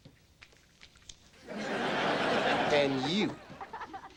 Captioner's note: audience laughing